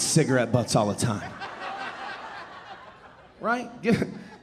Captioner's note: audience laughing